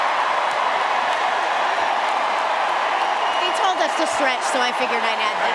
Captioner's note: cheering and applause